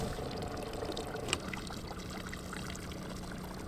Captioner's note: engine working